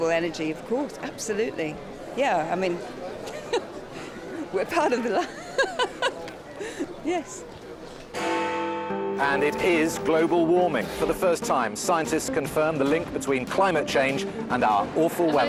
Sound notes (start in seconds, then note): 6.2 laughs; 8.1 bell tolls